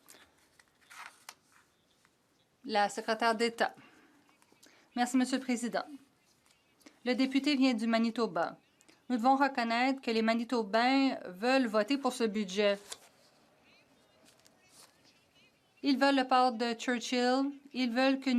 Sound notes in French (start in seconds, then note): 8.6 voix de l'interprète